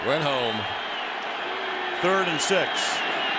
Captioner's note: cheering